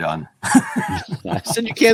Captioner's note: laughter